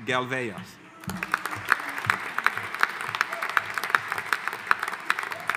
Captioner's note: audience applauding